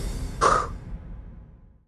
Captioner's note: exhales sharply